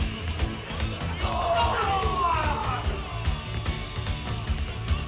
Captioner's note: yelling